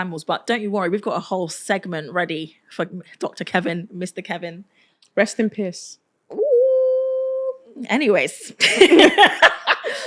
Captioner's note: laughter